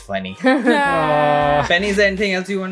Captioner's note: laughter